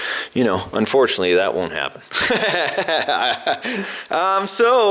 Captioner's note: laughs